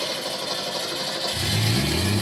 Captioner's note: starter cranking; still cranking; vroom!!!